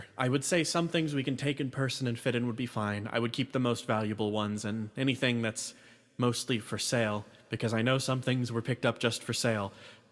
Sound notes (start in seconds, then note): none